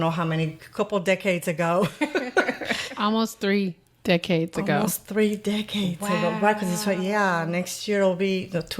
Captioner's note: laughter